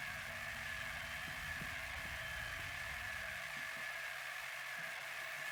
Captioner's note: whirring static